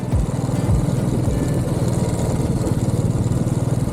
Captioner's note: bike engine